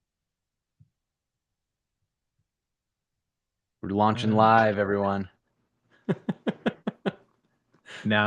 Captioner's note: laughter